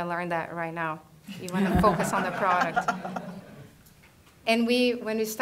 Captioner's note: laughter